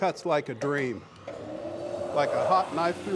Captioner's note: blade starting